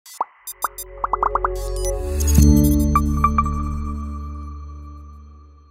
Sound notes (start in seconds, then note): 0.5 logo pops; 3.1 logo chimes